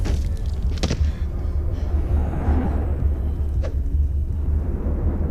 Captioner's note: heavy breathing